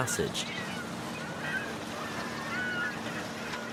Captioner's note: boatyard and seagulls